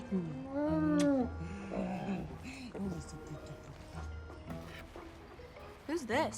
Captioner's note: Harley smooches; Bruce grumbling